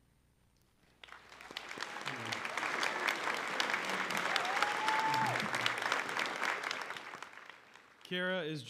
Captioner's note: applause